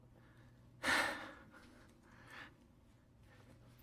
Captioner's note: sighs